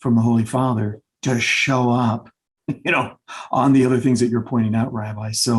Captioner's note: chuckles